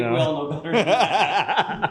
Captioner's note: laughing